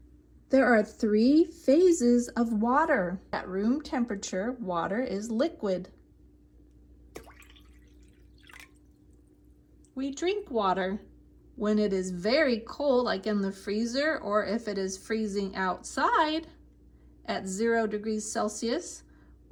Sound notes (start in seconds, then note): 7.1 water pouring